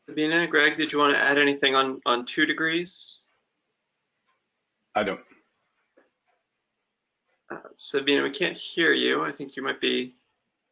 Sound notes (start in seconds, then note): 5.8 speaking into a muted microphone